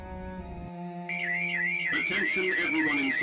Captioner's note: siren wailing